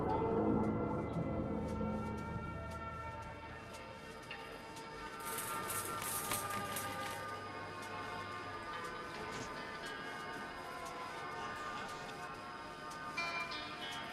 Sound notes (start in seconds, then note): 2.0 sirens in the background; 10.3 atmospheric music playing